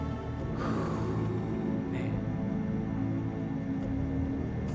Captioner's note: sighs